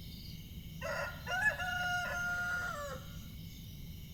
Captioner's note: A rooster crows